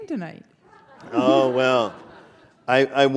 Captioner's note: laughter